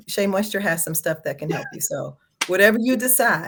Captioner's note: laughs